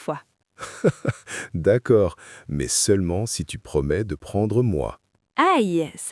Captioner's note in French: rire